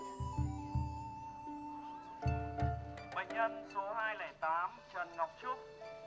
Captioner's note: loudspeaker in foreign language